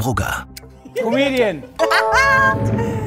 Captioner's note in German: Lachen